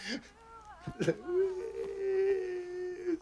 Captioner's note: sobbing